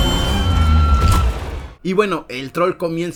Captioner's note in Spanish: grito